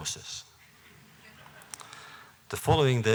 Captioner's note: laughter